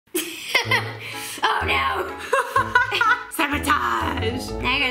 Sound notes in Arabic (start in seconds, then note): 0.1 يضحك; 2.3 يضحك